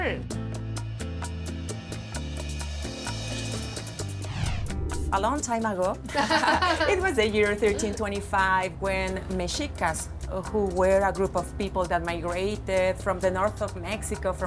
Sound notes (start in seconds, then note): 6.0 laughter